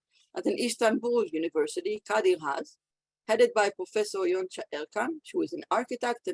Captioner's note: Hebrew